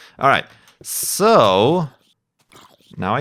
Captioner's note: sound of zombie burning in the sun